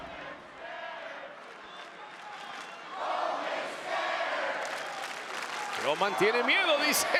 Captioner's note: applause